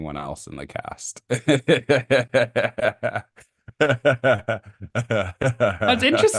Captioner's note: laughing